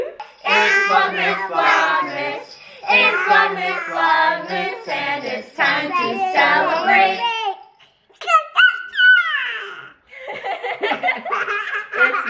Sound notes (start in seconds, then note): 7.7 speaking excitedly; 10.1 all laughing